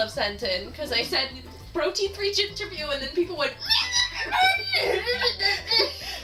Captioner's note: freaking out gibberish noises